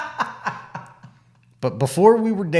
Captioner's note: laughing